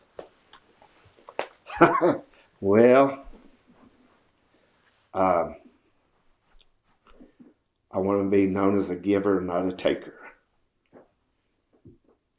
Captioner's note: laughs